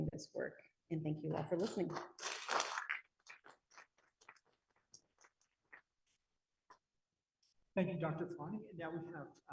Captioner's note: applause